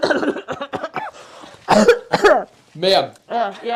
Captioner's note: coughing